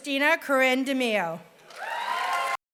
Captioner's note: applause